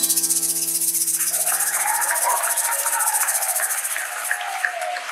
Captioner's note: audience applauding